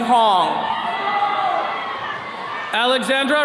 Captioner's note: attendees cheering